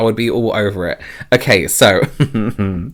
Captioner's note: chuckles